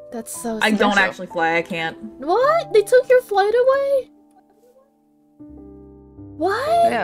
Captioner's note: none